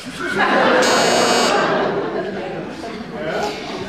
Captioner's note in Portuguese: campainha